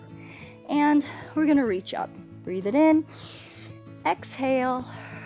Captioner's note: inhales